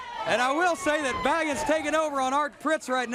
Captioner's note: crowd cheering